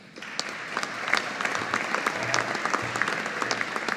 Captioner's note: audience applauding